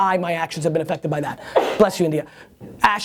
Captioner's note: sneezing